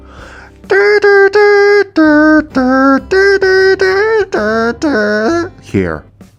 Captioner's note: jurassic park sfx